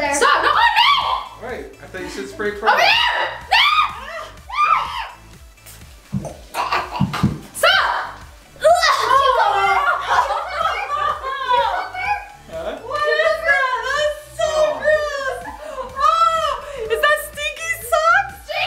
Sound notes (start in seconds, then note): 0.5 screams; 2.8 screaming; 6.1 choking; 10.6 laughing